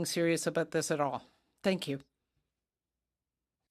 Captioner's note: speaking French